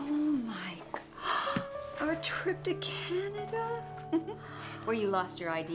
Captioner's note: gasps